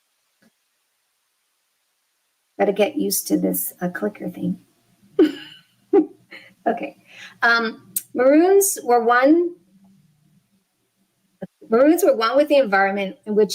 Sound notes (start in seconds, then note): 5.9 laughs